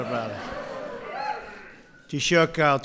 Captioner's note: laughter